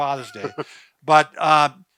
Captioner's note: laughs